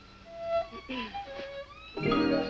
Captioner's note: clears throat